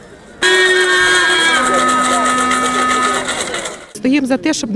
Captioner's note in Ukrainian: шум натовпу і дудок